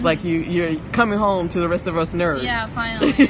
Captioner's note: laughs